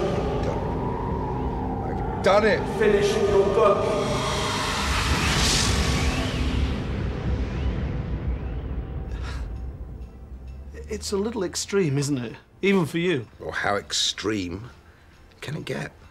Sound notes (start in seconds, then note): 4.2 intense eerie music; 9.0 sighs